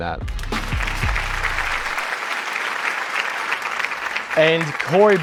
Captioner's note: applause